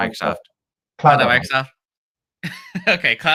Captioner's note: laughs